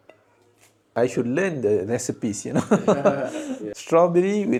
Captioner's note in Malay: ketawa